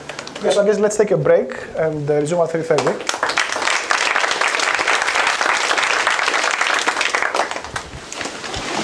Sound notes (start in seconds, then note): 4.8 applause